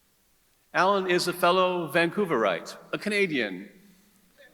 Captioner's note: none